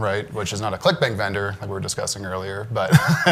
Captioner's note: laughs